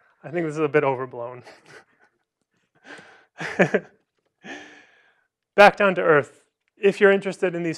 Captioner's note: laughter